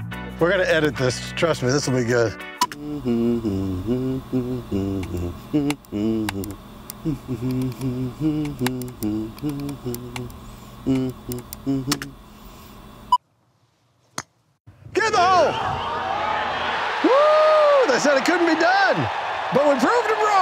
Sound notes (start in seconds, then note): 4.4 humming; 17.7 applause